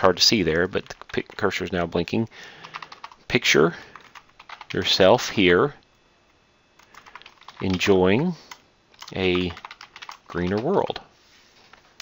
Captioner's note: typing